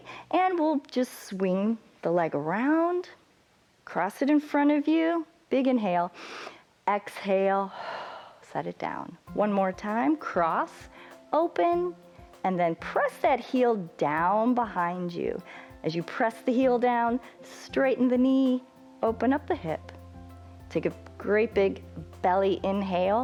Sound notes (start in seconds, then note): 7.7 exhales; 7.7 inhales